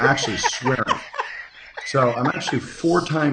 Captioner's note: laughing